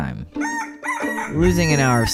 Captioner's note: rooster crowing